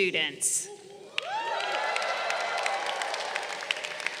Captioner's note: crowd cheering